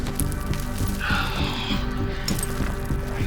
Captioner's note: Bruce exhales